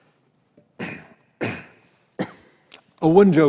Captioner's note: clears throat